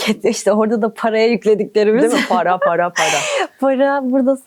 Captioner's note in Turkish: kahkaha